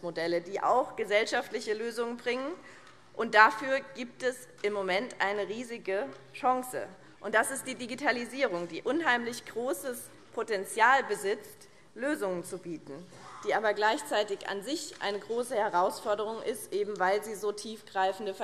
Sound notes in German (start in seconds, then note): none